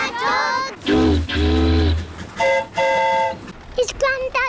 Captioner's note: train horn toots; boat horn honks